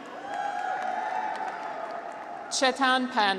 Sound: graduates cheer

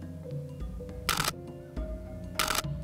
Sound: camera clicks

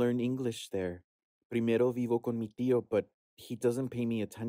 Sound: actor speaking Spanish

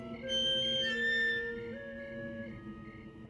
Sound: creak

